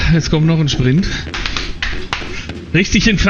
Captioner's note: slaps his thighs